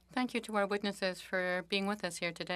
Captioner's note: speaking French